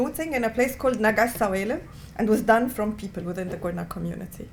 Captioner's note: non-english